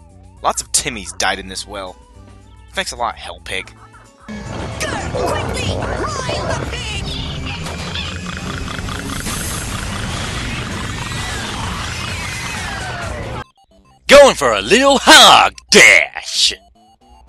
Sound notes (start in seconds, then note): 7.3 piggy noises and alien noises